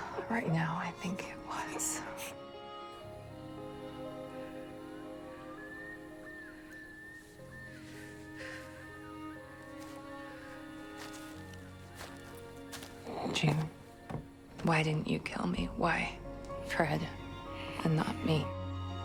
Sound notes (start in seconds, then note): 13.4 voiceover